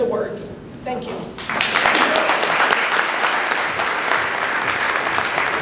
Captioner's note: applause